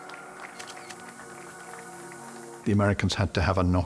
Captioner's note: applause